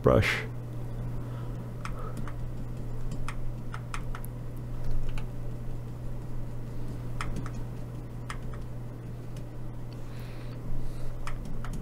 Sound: typing

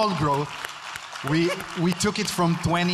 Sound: audience clapping

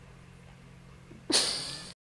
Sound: humoured air puff

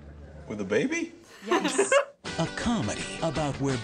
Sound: laughs

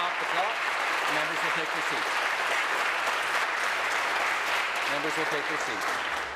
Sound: applause

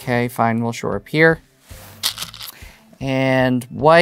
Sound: stones rattling

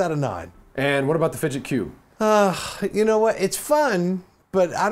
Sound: sigh

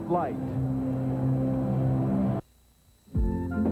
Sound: ambient ballpark noise

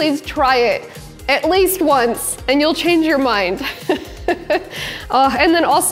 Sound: chuckles

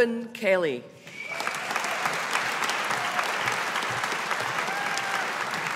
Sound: audience applauding

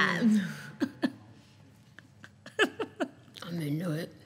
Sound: laughing

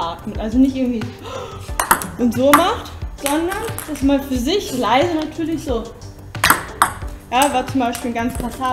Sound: loud inhale; exhale

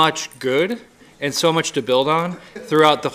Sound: laughing

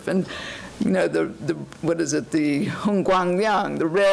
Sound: foreign language

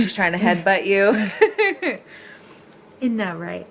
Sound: woman chuckles

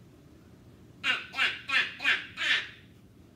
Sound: Turkey laughing sound

